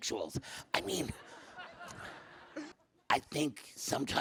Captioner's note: audience laughs